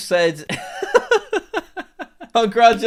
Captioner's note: laughs